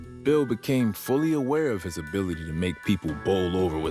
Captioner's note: none